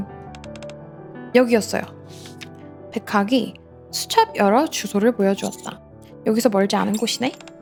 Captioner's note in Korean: 콧방귀